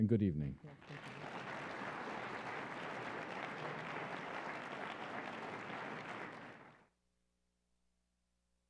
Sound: applause

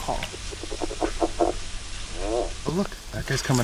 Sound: frog croaks

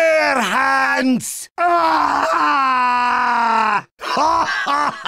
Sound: Demoman dying sounds

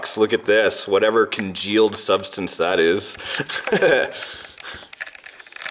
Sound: laughing

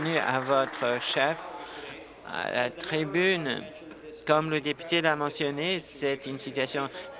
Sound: applause

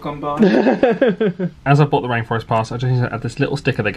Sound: laughs

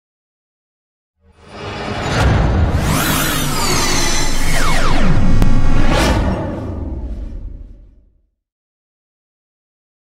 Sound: sound of morphing

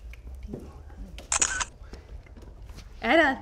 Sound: camera shutter clicking

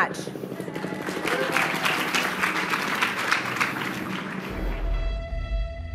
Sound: audience applauding; upbeat suspense music

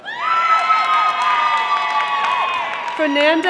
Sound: audience applauding

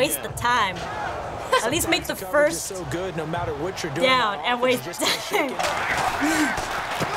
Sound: laughs

